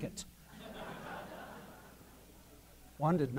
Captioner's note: laughter